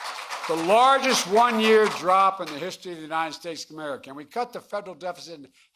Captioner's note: applause